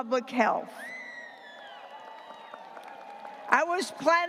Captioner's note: graduates cheering and applauding